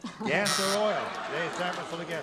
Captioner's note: wrong buzzer